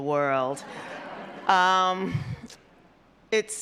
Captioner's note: audience laughs